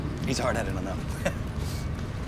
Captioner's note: chuckles